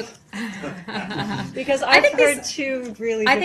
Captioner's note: laughter